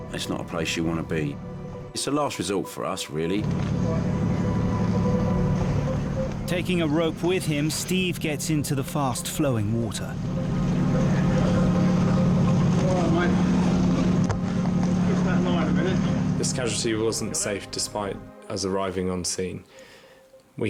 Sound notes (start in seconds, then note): 4.3 boat engine revving; 10.8 boat engine revving